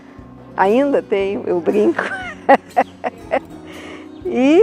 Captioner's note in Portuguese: risos